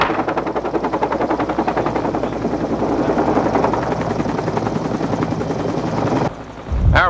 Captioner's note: wood snaps; blades whirring